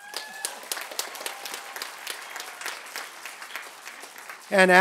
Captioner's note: applause